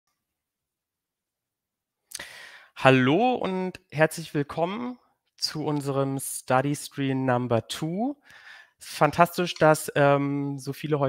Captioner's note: speaking in German